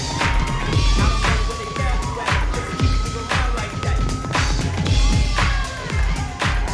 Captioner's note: audience cheering